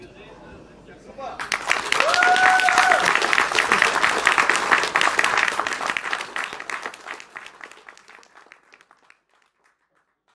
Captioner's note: applause